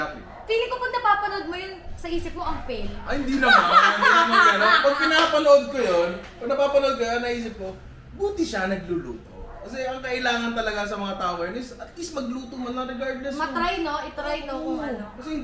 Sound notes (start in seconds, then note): 7.4 laughs